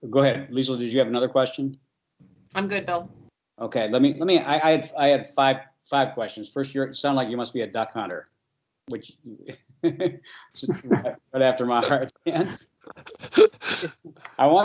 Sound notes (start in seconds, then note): 9.8 chuckles; 12.9 laugh